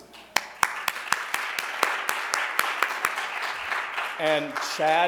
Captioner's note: audience applauds